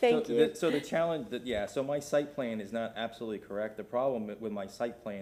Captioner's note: laughter